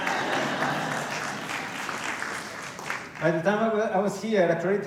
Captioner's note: laughter and light applause